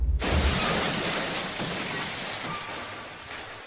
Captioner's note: loud crashing